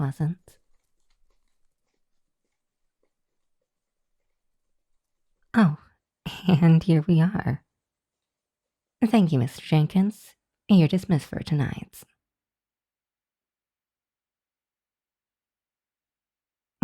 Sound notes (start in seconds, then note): 0.5 horses come to a stop